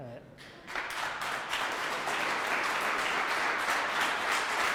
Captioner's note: audience clapping